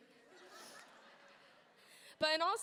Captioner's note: audience laughing